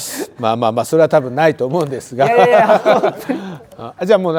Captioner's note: laughs